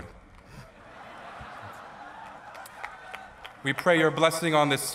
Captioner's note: laughter